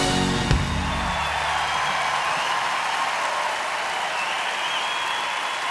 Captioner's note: cheering; applause